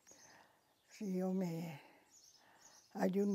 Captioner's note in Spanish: recita